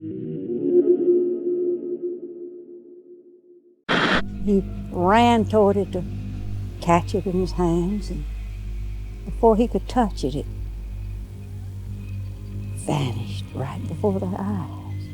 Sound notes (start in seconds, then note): 2.1 soft ambient music; 3.3 static hissing